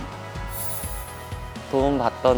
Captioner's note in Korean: 반짝이는 효과음